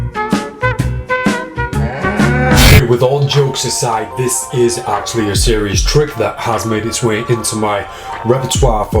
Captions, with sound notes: (cow mooing) Okay with all jokes aside this is actually a serious trick that has made it's way into my repertoire